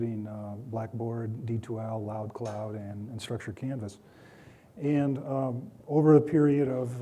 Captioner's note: clinking